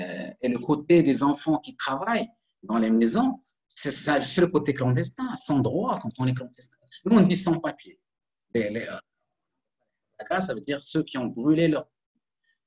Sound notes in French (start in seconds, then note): 7.8 coupure audio